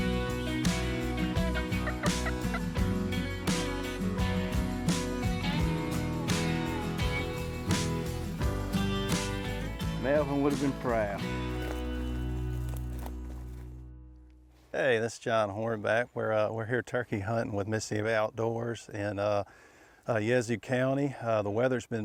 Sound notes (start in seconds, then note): 2.9 turkey call clucking